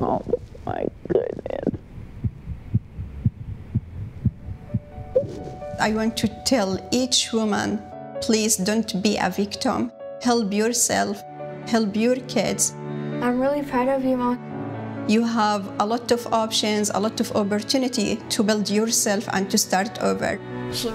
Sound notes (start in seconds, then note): 2.3 heart beating